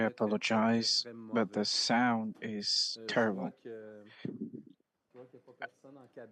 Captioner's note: speaking French